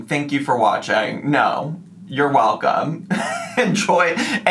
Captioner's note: laughs